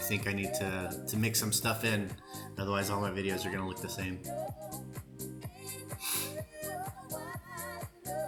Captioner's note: snorts